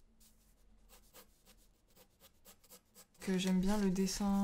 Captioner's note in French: bruit de crayon sur papier